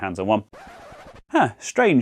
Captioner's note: record scratch